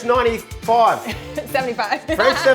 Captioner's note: chuckles